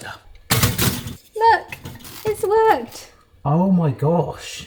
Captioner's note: toasts thudding